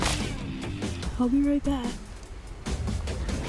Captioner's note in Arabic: قعقعة عناصر; سخرية